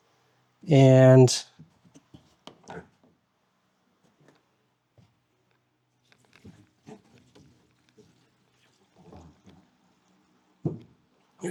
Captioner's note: silence